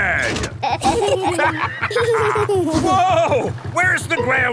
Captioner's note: lever clangs; kids and captain dog laughing